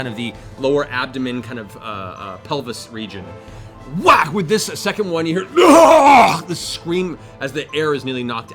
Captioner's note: whack; deep groaning